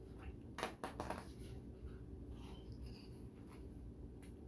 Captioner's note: paper rustles